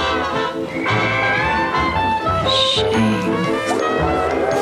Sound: whistle blows

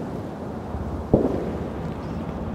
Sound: distant gunshot

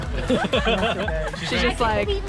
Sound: laughter

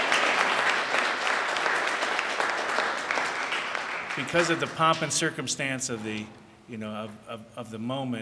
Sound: applause

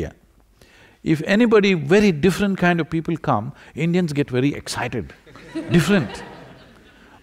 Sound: laughter

